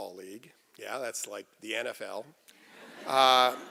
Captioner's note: laughter